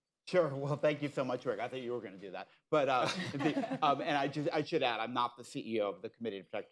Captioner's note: laughter